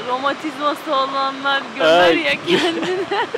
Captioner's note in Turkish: hehehe